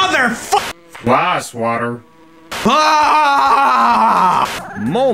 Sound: screaming

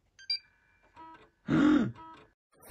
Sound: gasp

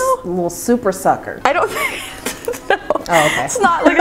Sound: laughing

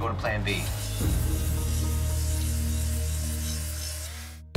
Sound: grinder whirring

